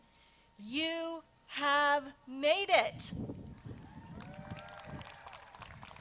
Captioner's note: crowd cheers